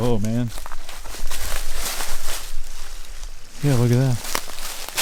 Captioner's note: footsteps pattering; leaves rustling